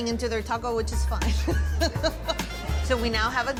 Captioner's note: laughs